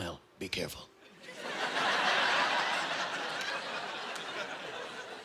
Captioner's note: laughing